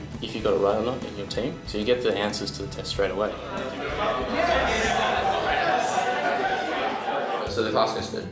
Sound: background chatter including a "Yes!"

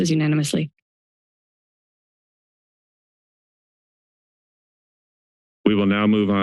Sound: silence

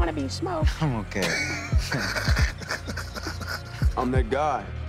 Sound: laughter

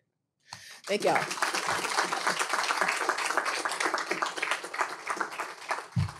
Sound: applause

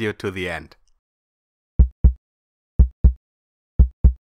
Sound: heartbeat

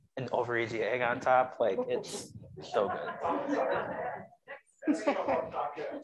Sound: audience laughing

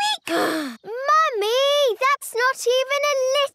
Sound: sighs

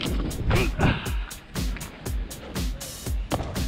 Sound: groaning

